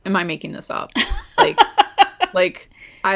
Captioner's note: laughs